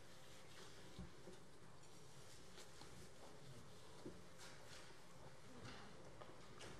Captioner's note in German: none